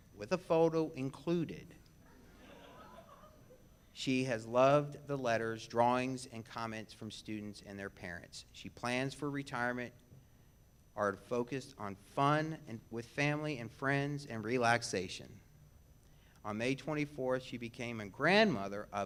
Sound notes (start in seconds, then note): 2.1 audience laughs